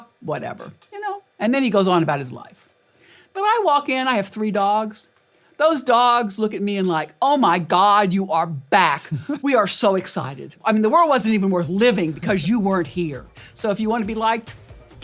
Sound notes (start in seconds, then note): 9.3 laugh